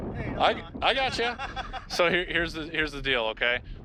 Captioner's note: father laughing